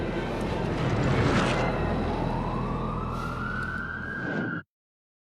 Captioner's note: siren wailing